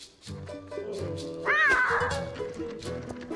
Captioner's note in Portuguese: filhote bramando